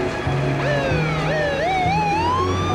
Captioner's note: siren wailing